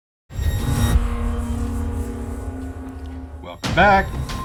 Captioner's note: electronic swoosh